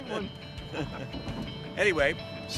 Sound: laughing

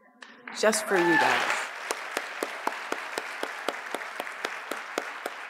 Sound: audience applauds

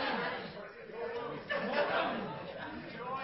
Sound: laughing; crowd shouting ideas

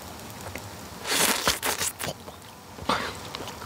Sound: Beef slurping

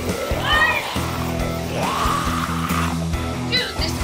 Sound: furious snarls

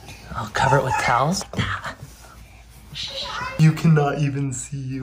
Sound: shushing

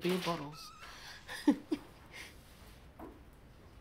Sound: nervous laugh

